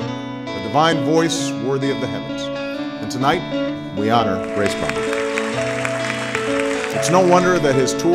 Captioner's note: applause